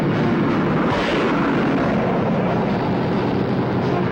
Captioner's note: gunshot pops